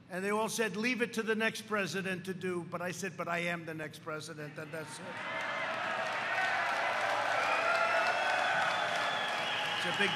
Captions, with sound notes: And they all said leave it to the next president to do. But I said, but I am the next president. And that's -- (applause) -- it's a big deal.